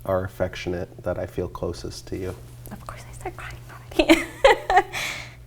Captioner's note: laughs